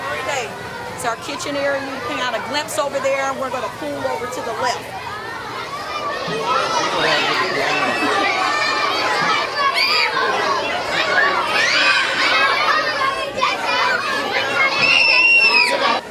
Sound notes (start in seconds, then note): 6.2 children chattering; 11.1 screaming